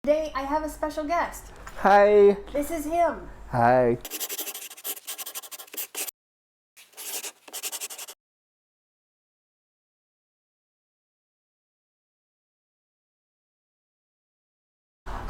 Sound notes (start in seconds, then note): 4.3 scribbling; 9.6 silence